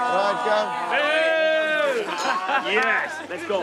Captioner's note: jeering